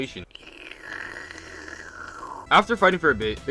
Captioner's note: slurps